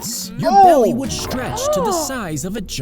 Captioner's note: both gasping